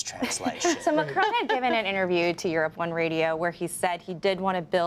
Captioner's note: laughter